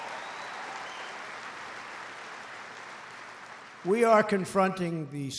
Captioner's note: applause